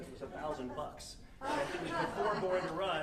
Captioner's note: audience laughing